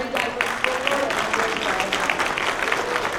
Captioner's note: applause